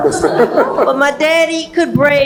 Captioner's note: laugh